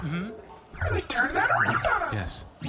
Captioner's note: whispering